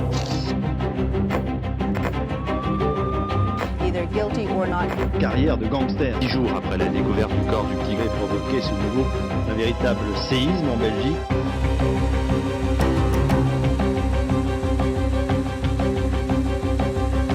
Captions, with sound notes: - Either guilty or not-- (speaking foreign language) (dramatic music)